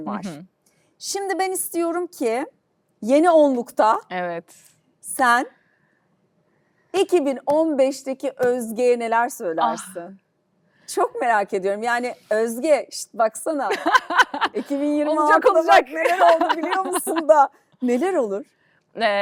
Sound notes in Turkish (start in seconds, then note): 13.6 kahkaha